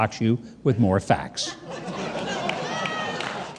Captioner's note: audience laughs